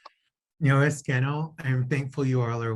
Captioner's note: speaking in Native language